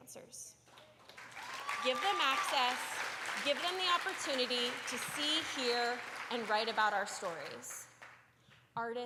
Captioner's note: applause